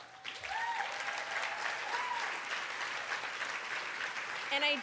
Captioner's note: cheers